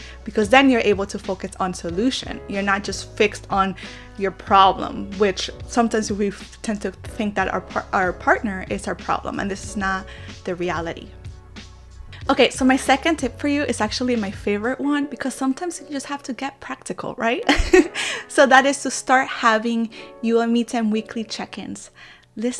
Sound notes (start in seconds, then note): 17.4 giggles